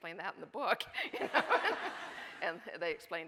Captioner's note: audience cheering